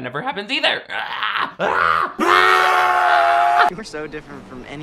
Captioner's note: screaming